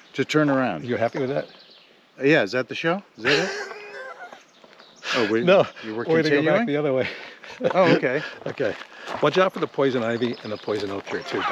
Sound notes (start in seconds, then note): 3.2 laughing